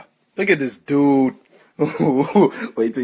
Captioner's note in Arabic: يضحك